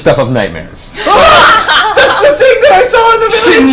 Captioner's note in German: Gelächter